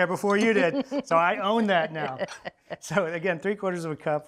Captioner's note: laughing